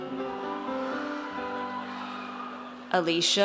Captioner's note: audience cheers